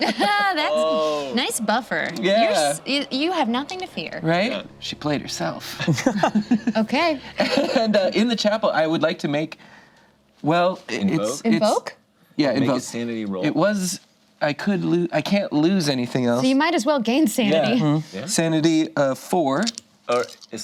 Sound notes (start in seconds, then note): 0.0 laughs; 5.7 group laughs